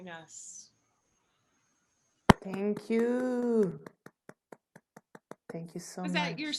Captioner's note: applause